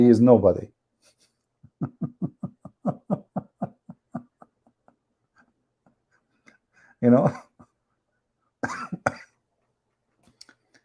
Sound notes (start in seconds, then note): 1.6 Ketawa